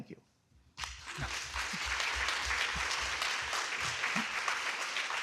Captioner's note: audience clapping